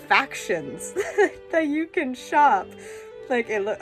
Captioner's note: laughs